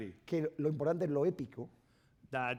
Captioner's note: speaking spanish